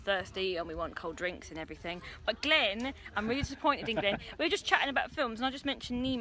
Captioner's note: he laughs